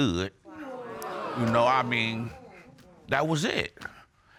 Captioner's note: audience exclaiming